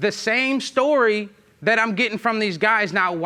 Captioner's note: none